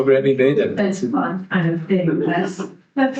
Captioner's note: audience laughing